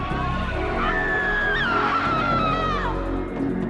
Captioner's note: woman screaming